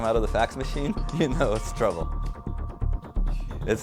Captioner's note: chuckles